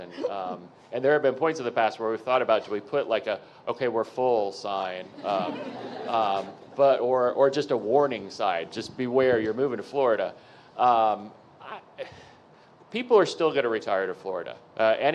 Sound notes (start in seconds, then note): 5.1 audience members laughing